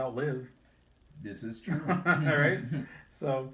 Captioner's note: chuckles